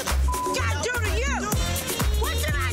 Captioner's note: beep